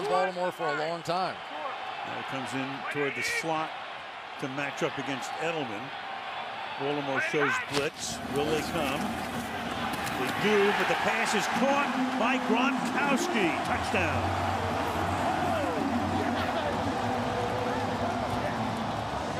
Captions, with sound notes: He's going to be around Baltimore for a long time. Now comes in toward the slot to match up against Edelman. Baltimore shows blitz. Will they come? They do. But the pass is caught by Gronkowski. Touchdown! [cheering]